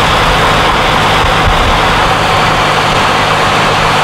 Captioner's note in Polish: dźwięk jadącego samochodu